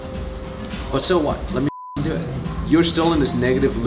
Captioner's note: beep